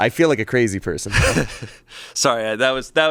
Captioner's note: chuckles